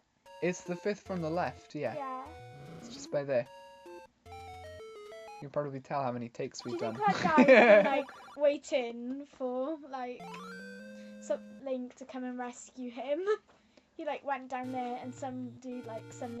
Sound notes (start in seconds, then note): 6.7 laughs